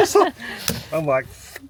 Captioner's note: laughing